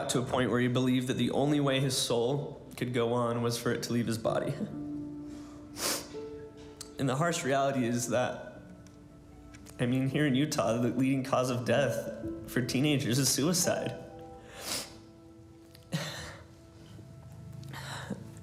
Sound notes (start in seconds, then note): 5.7 sniffles